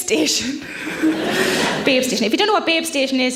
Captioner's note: audience laughs